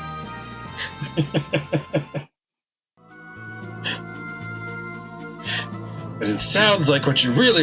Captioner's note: chuckles